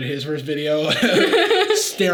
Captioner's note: both laughing